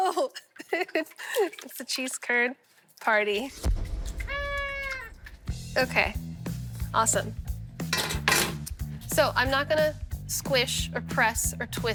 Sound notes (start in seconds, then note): 0.1 laughs; 3.3 party horn blows; 3.6 blasting